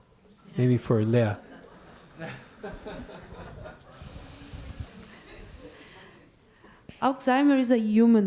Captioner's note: laughter